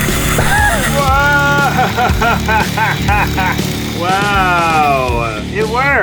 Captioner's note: machine hissing; laughing